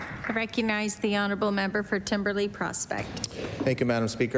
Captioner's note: applause